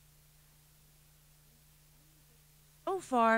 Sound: pause

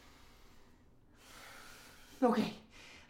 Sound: sighs

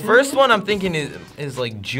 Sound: bell dinging

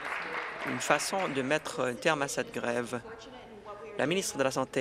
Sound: applause

